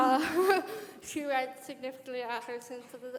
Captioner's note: brief laughter